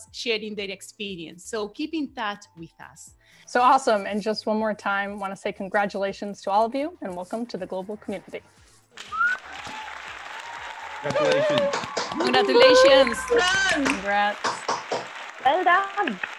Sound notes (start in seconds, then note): 9.0 crowd cheering